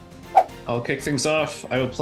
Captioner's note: dramatic music; air whooshing